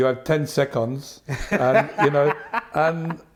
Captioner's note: laughter